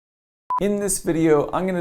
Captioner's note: beep